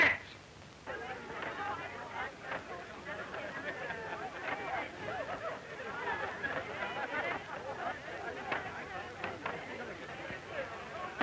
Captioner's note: crowd chattering